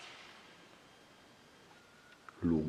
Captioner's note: whistle